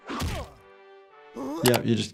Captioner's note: Lumpy groans